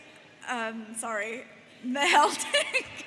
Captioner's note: laughs